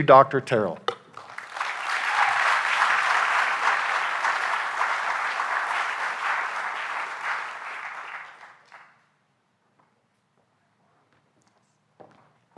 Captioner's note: applause